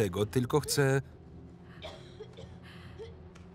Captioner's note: coughing